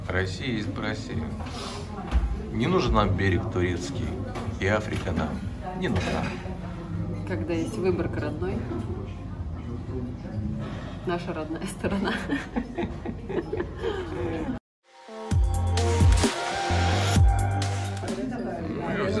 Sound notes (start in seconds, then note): 11.9 laughter